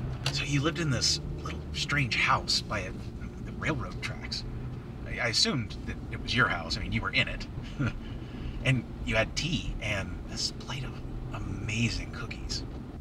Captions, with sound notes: So you live in this little strange house by railroad tracks. I assumed that it was your house. I mean you were in it. [chuckles] And you had tea and this plate of amazing cookies.